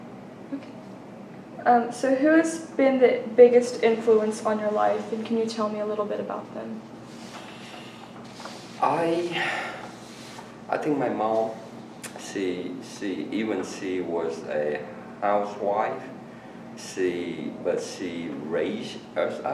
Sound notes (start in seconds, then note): 9.3 sighs